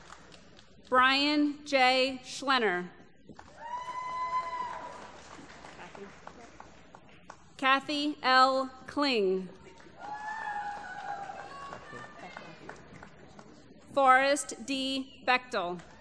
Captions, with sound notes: Brian J. Schlener. [ Applause ] Kathy L. Kling. [ Applause ] Forrest D. Bechdel.